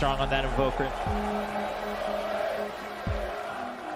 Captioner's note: crowd cheering